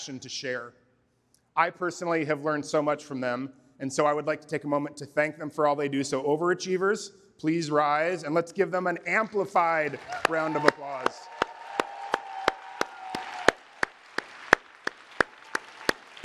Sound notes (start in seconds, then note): 12.0 applause